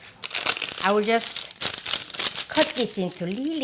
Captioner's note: seaweed crinkles